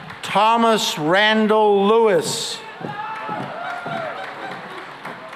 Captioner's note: cheering and applause